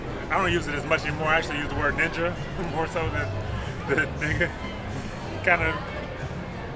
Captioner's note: chuckles